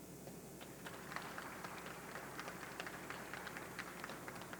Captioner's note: audience clapping